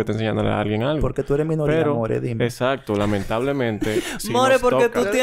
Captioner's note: laughs